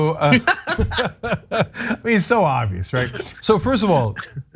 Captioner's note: laugh